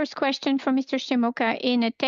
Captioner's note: speaking French